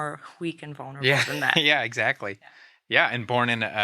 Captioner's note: laughing